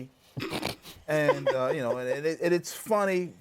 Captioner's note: laughs